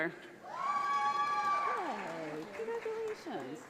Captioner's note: audience applauds